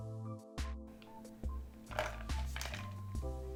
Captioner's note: ice moving sound